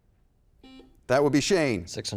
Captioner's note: buzzer